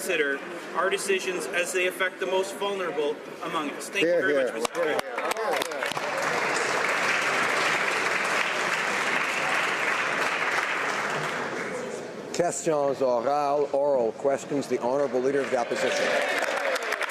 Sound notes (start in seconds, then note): 11.6 applause